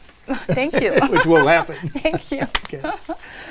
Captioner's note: laugh